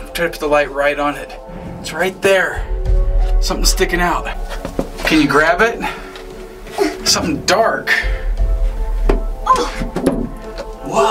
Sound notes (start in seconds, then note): 7.3 grunts